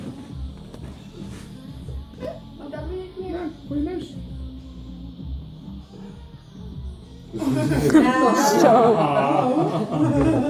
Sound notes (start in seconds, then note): 7.4 people laugh